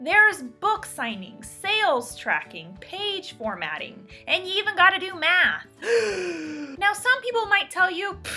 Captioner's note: gasps